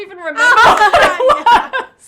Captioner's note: laughter